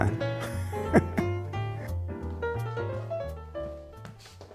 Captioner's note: laughs